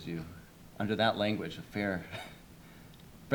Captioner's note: chuckles